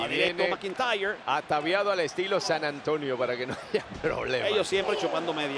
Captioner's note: laugh